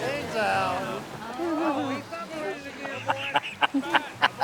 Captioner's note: laughing